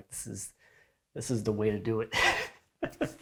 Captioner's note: laughs